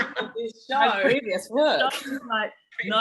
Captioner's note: group speaking together